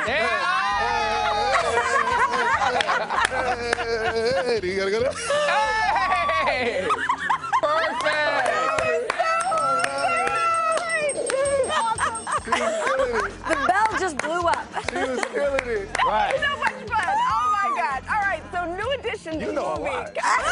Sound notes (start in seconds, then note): 4.2 laughing; 13.2 laughing